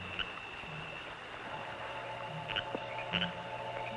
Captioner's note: frogs croaking